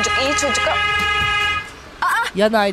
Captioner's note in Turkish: Korna sesi